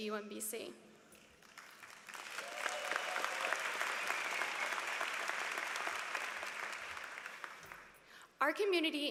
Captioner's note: applause